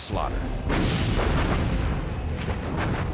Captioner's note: gunfire